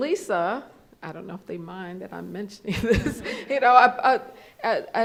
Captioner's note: laughs